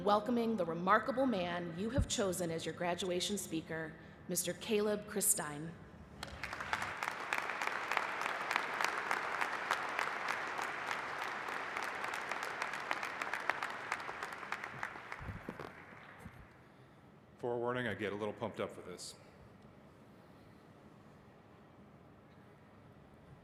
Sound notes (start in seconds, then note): 6.2 applause